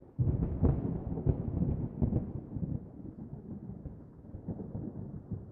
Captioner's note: thunder